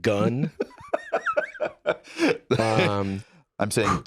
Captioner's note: laughs